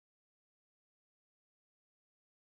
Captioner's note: none